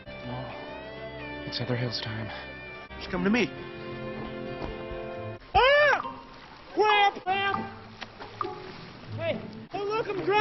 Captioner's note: scream